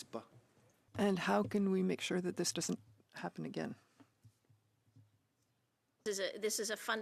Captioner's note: speaking French